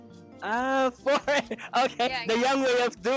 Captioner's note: chuckles